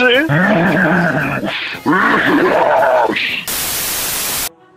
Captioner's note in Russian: Злобный смех